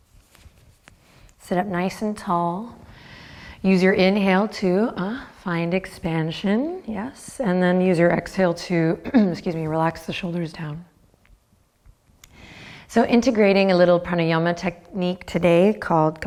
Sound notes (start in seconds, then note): 9.0 clears throat